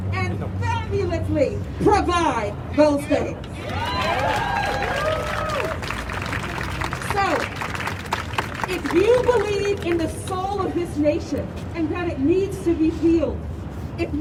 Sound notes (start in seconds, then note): 3.5 crowd cheering